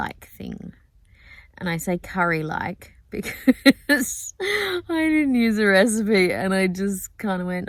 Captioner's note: laughing